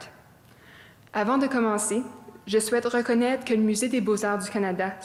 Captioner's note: speaking French